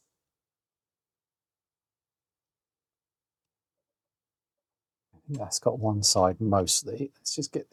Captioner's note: silence